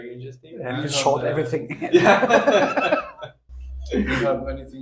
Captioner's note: laugh